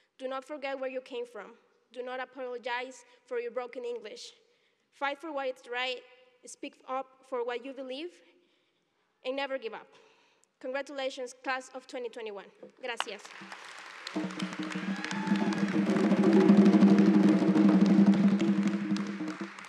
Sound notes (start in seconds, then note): 9.1 thank you in Spanish; 10.7 applause